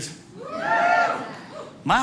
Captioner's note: audience cheering